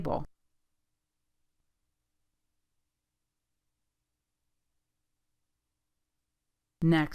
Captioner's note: silence